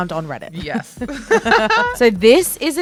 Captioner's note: both laugh